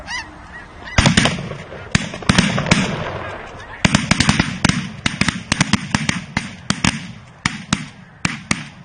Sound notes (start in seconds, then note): 4.4 shotguns blast